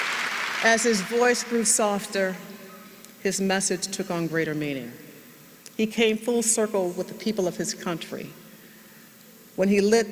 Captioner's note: applause